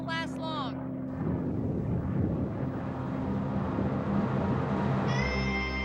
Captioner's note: thunder rolling; dramatic music